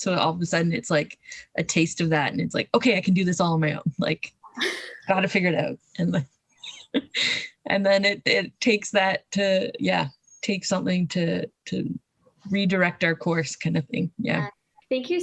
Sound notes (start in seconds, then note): 6.7 laughs